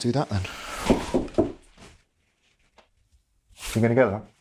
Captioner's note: knocking on door